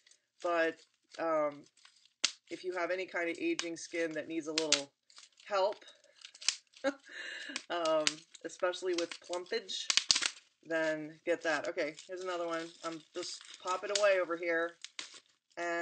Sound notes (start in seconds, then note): 6.9 laughs